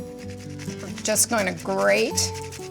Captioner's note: nutmeg scraping